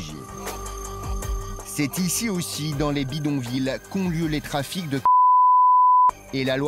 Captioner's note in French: bip